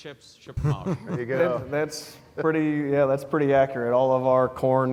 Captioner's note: laugh